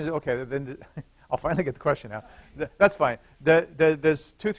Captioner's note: laughter